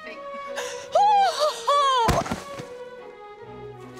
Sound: dramatic gasp

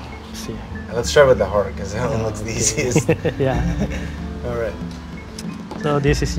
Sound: laughs

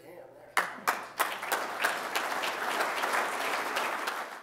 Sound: applause

